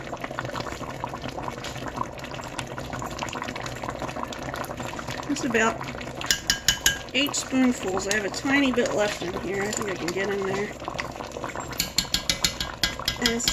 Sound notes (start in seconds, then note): 6.3 clang, clang, clang; 11.7 clang, clang, clang